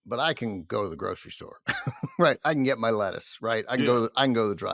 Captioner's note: chuckles